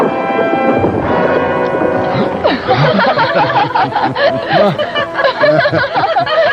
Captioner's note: gasping; women laughing